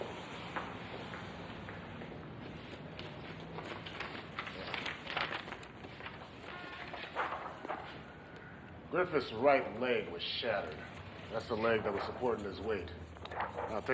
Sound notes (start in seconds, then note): 0.5 feet clacking; 2.4 paper crackling; 7.3 folder crackles